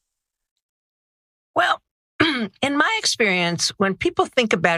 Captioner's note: cough